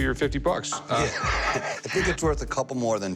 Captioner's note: laughs